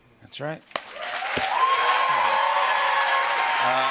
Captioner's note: cheers and applause